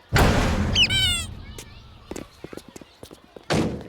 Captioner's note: door slamming; squeaking